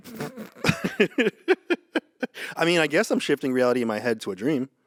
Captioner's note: laughs